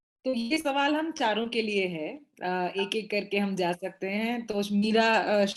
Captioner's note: speaks foreign language